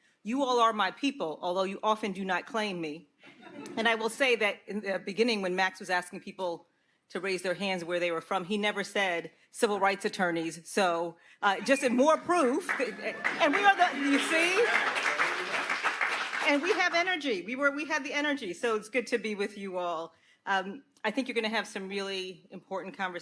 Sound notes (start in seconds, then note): 15.1 audience applauds